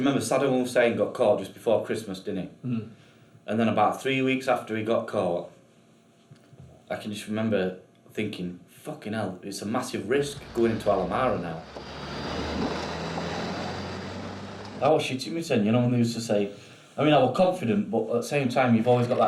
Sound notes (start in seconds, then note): 11.8 engine rumbling